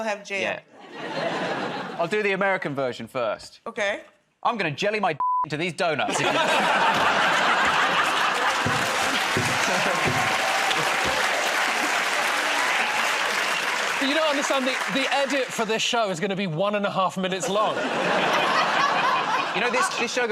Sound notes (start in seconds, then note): 6.0 laughter; 11.2 cheers and applause